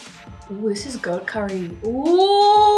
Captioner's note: excited